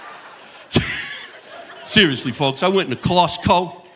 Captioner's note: chuckles; audience laughing